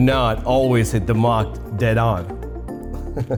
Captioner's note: laughing